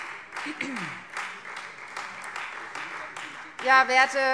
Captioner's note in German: Beifall Freie Demokraten